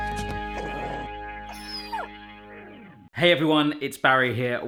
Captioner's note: pug growls